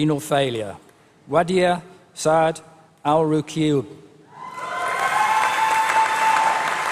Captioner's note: applause